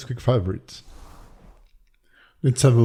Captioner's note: screen whooshing